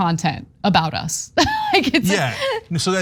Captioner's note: laugh